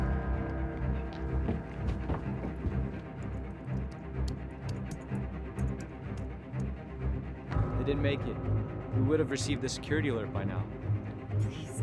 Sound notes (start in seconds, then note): 4.6 clicking